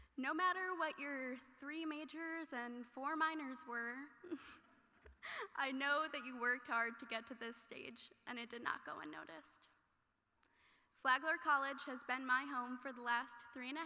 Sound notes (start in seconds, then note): 4.3 chuckles